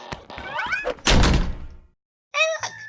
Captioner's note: slams door